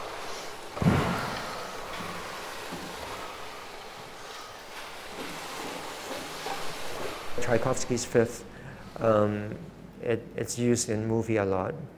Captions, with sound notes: [rhythmic whooshing, rustling, and stomping] Tchaikovsky's 5th is used in movies a lot